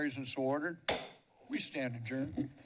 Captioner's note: gavel taps